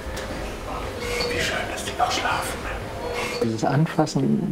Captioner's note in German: flüstert